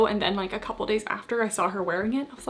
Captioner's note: none